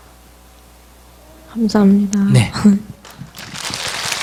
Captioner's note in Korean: 청중 박수